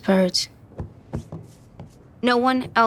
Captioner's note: thing thudding